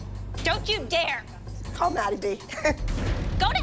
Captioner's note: Abby laughs